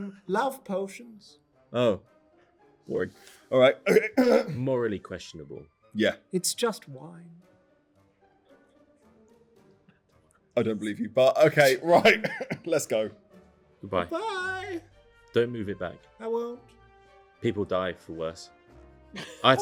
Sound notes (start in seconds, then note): 3.8 clears throat